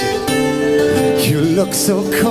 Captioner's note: scoffs